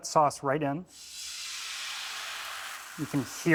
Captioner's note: sizzles